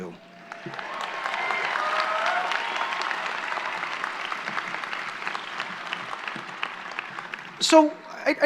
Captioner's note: applause